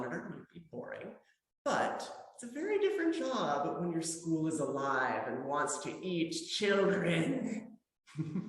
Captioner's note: laughter